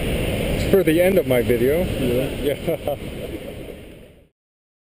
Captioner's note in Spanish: Risas